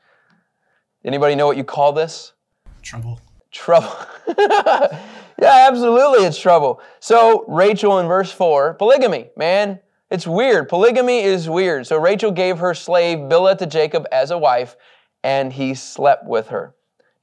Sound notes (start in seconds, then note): 3.8 laughing